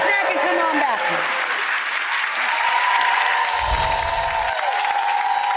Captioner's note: audience cheering